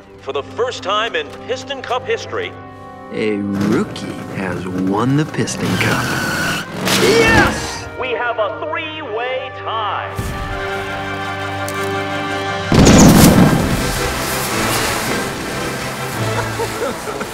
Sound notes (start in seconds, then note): 5.8 car engine revs; 10.3 crowd cheers and cameras flash; 12.7 confetti cannons explode